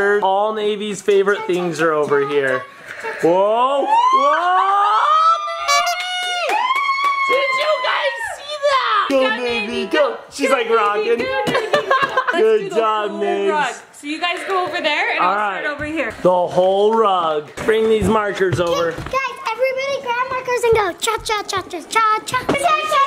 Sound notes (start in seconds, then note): 6.8 cheering and clapping; 11.4 laughs